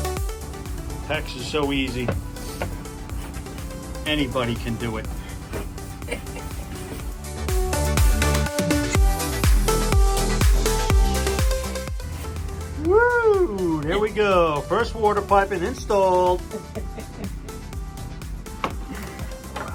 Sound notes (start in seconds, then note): 5.8 sarcastic laugh